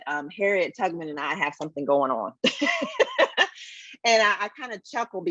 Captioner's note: laughs